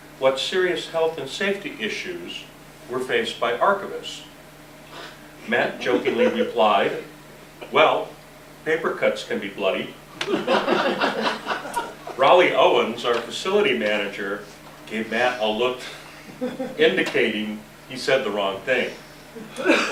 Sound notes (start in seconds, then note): 10.2 laughter